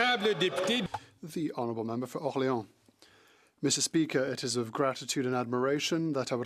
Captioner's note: some Applause